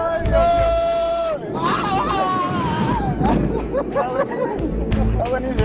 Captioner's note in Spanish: gritos